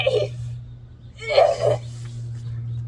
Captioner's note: grunts